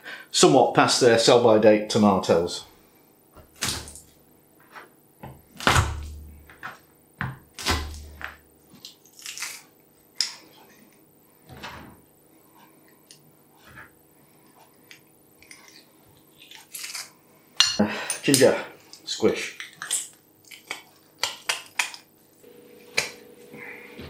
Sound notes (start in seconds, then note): 3.5 splat; 5.5 crunch